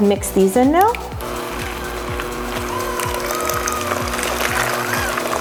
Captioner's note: batter splatters